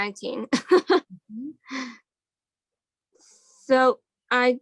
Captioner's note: laughs